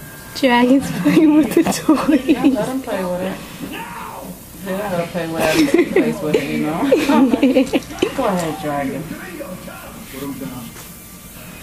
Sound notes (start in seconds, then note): 5.4 laughs